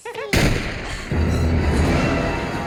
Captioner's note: gun firing; suspenseful orchestral music